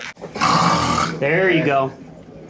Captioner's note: snorting